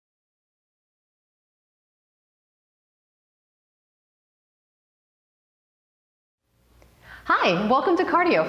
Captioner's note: silence